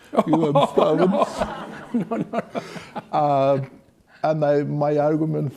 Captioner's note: laughing